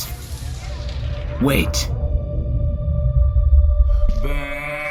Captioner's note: background chaos fades into an angelic whine